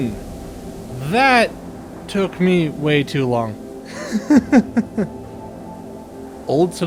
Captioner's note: laughter